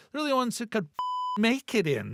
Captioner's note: beep